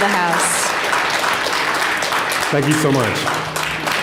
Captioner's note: applause